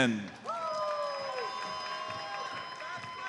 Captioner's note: audience cheers and applauds